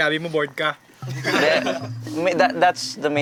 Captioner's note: laughter